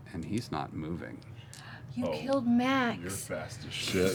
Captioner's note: gasps